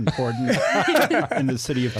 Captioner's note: laughing